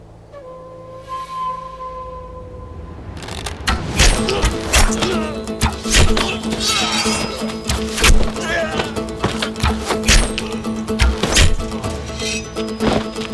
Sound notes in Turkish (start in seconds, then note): 3.2 Ok saplanma sesi; 11.0 Ok saplanma sesi